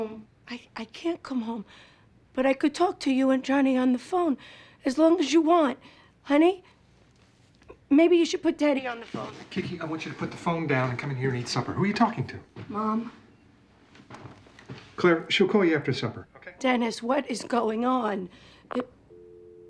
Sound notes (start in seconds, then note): 18.0 receiver clicks